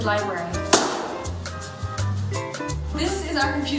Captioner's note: slams book